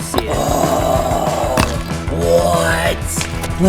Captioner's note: groaning